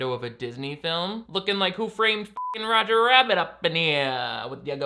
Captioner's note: beep